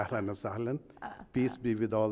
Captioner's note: foreign language